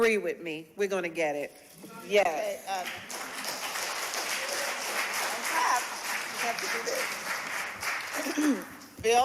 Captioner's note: applause